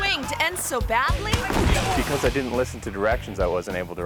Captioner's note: thuds